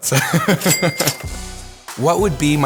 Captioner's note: laughs; cash register dinging